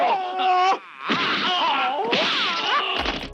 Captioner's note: kung fu exclamations